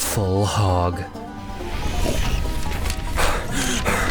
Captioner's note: country music speeding up; pig squealing; heavy panting